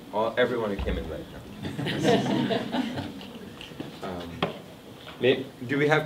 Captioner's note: audience laughing